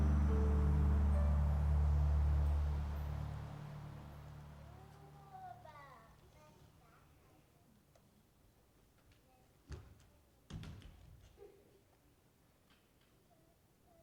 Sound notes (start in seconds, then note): 1.7 dramatic music continues; 9.7 footsteps thumping